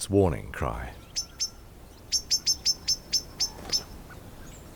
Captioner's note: bird chirping